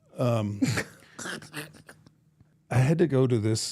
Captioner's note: laughs